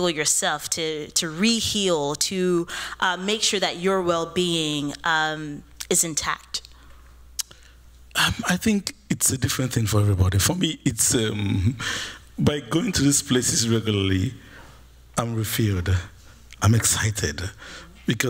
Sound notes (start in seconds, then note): none